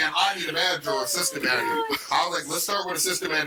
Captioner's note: laughing